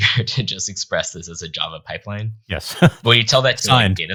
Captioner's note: chuckling